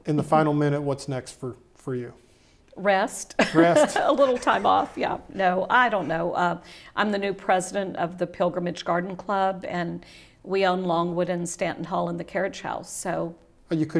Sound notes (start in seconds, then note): 3.4 laughs